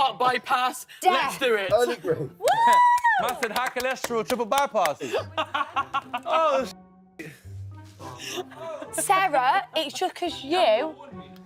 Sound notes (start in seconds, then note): 5.0 laughs